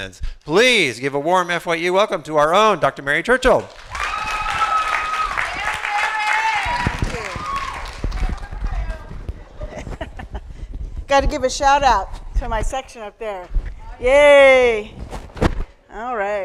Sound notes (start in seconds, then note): 3.5 applause and Cheers; 9.4 chuckling